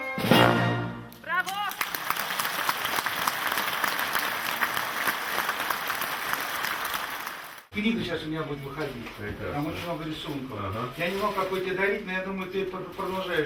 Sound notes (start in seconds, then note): 1.3 audience applauding; 7.9 speaking in the Russian language